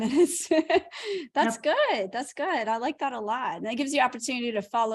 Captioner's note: laughter